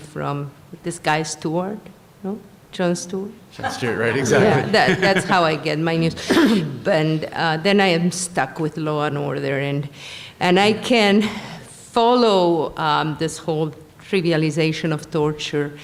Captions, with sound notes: FROM THIS GUY STEWART, JOHN STEWART? >> JOHN STEWART, [LAUGHTER] RIGHT EXACTLY. >> YEAH, THAT'S HOW I GET MY NEWS [COUGHS] AND THEN I AM STUCK WITH LAW AND ORDER, AND I CAN FOLLOW THIS WHOLE TRIVIALIZATION OF TORTURE